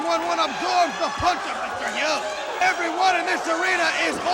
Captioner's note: crowd chatter